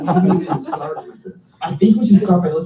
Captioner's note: laughter